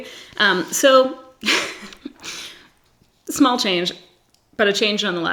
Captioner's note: laughs